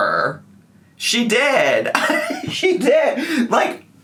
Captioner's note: laughs